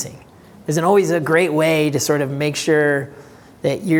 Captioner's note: voice muffled